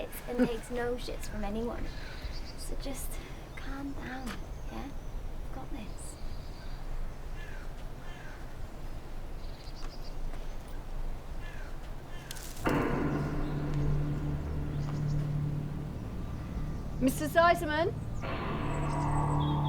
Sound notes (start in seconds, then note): 7.1 birds cawing; 12.6 ominous music